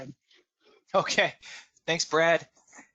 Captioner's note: laughing